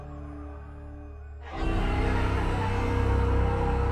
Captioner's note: shouting